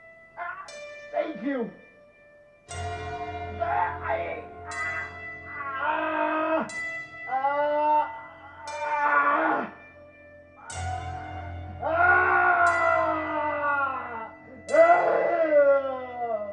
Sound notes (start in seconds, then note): 0.4 scream of pain; 2.6 scream and gurgling; 7.2 screaming; 11.7 screaming